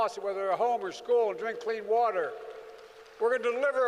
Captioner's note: applause